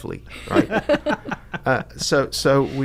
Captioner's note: laughing